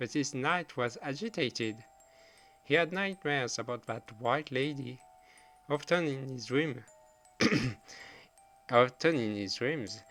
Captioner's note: clears throat